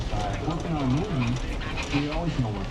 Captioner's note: people talk randomly